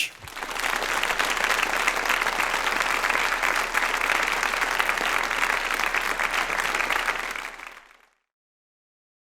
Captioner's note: applause